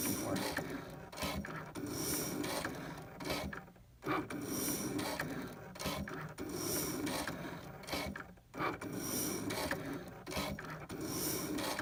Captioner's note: Cricut machine cutting paper